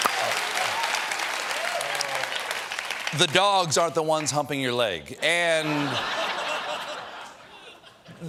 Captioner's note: cheers and applause